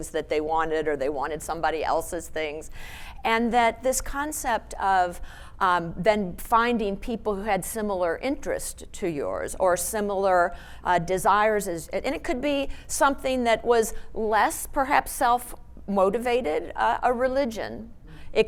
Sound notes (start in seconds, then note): none